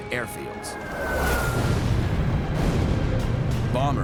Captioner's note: explosions